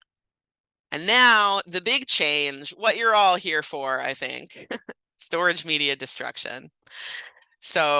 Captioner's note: laugh